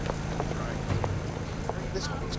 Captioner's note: footstep